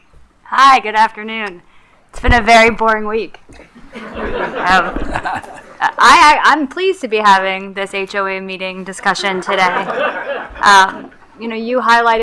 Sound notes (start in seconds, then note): 3.7 attendees laughing; 9.3 attendees laughing